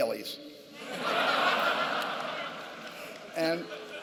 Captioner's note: laughter